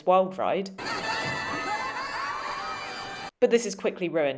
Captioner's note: kids cheer excitedly